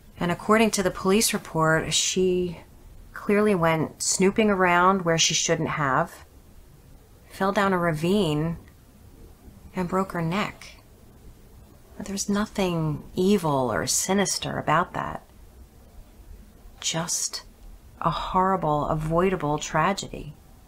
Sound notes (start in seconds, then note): none